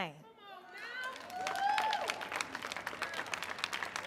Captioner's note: audience cheering